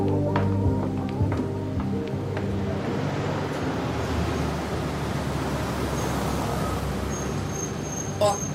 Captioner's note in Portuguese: Um carro se aproxima na garagem e estaciona